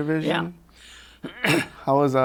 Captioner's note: clears throat